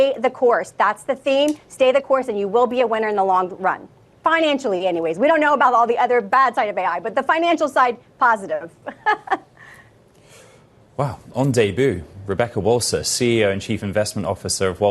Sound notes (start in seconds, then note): 8.8 laughter